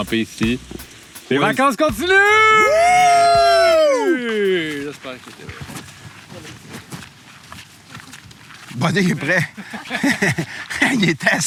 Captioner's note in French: rires